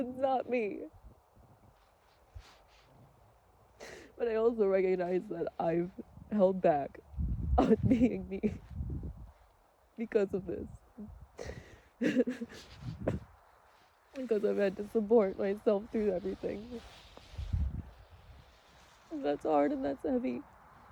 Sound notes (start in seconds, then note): 3.8 sniffles; 11.3 sobs weakly; 12.9 chokes; 17.4 wind gusts